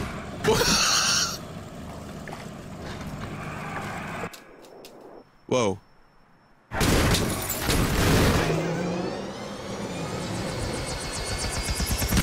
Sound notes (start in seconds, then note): 0.1 laughs; 6.6 crashes; 8.3 propeller speeding up